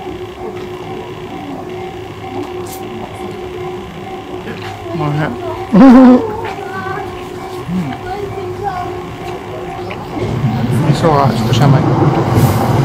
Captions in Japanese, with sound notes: おいしい。 おいしそう！（子供の声） 味噌が少し甘い。